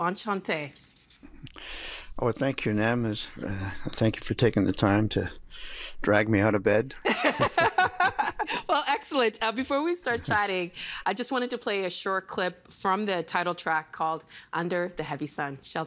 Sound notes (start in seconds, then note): 3.6 laughing